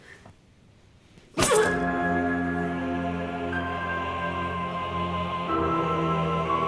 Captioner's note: Catherine grunting; dramatic solemn music